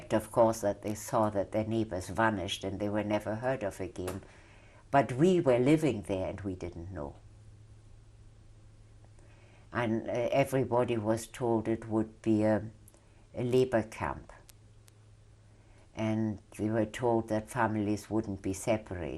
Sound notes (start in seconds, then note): 7.1 pauses for 3 seconds